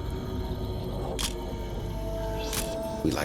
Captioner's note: camera shuttle click